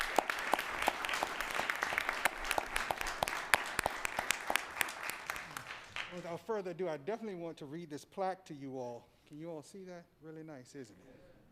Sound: applause

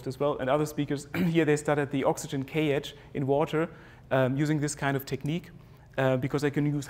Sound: cough

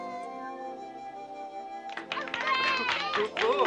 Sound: all clapping

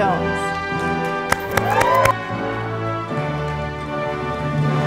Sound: audience applauding

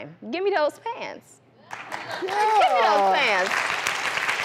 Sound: audience applauds

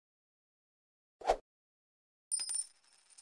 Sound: whoosh; coins jingling

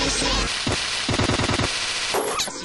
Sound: the firework stutters

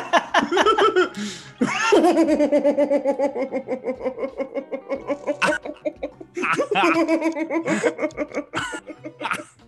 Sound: laugh

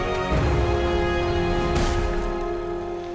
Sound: thudding

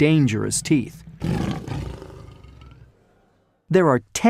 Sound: lion growls

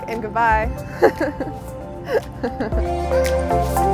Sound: laughs; airy electronic music

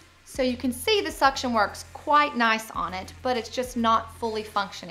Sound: none

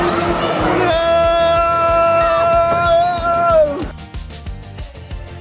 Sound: laughs; dad yelling; upbeat music

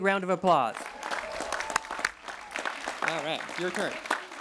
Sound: cheering

